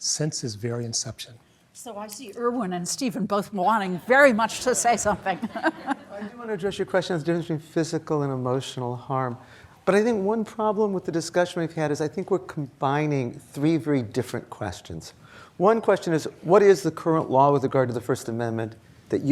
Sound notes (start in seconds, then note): 5.2 laughs